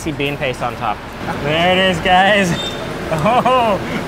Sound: laughs

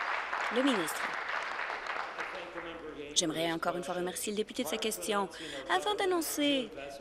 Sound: applause

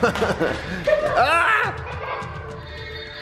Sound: laughing

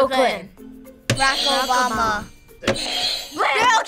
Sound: buzzer rings

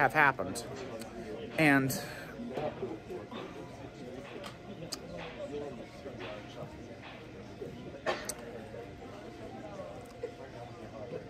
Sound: Students chattering at Purdue Fort Wayne's Walb Student Union

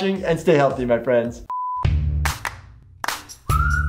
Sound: beep; upbeat music

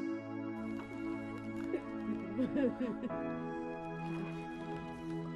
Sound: grandma cries

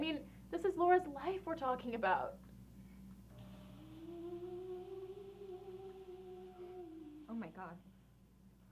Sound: A low moan

